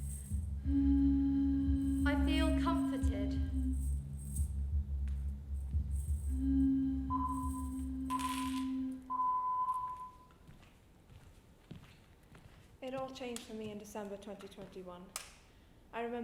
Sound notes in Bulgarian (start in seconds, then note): 3.7 Музиката спира и следва звуков сигнал